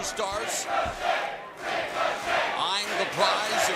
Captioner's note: fans chanting